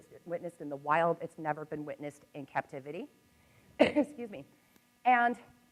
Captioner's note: coughs